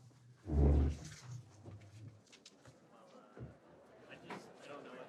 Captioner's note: chair clanking